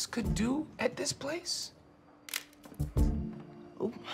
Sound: camera shutter clicks

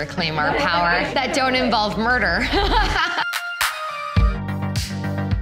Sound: laughing; upbeat music

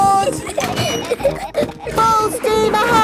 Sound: giggling

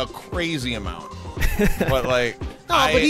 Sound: chuckling

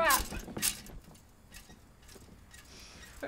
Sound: squeaky mattress spring

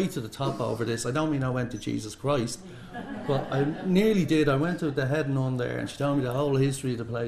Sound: laughter

